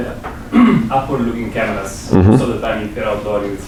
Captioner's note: man clears throat; man speaks with heavy accent